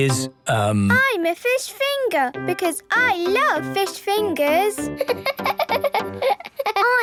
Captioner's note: laughing